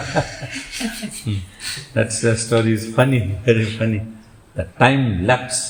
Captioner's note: laughs